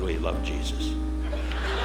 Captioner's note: audience laughing